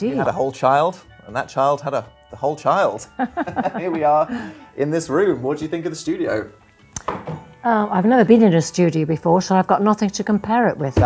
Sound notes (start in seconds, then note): 3.1 both laughing